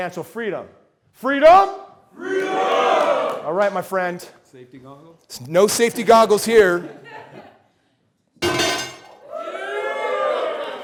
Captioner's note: crowd cheers freedom